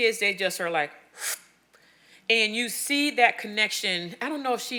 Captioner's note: sharply inhales